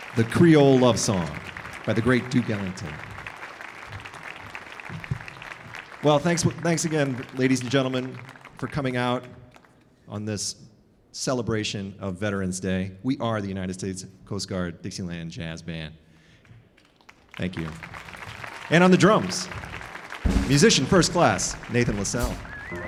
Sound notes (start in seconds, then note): 3.3 audience applauding; 16.7 audience applauding